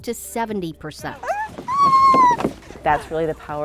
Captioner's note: screams excitedly